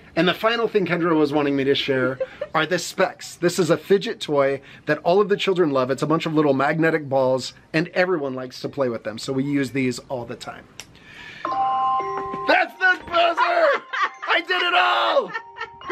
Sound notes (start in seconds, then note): 11.4 timer chimes; 14.9 laughs